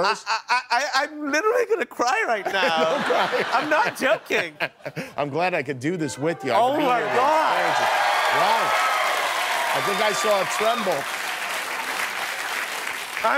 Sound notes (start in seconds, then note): 2.4 laughter; 7.2 applause